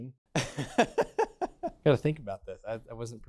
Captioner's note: laughs